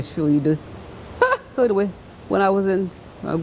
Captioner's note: laughter